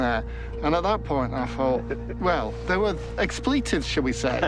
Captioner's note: laughs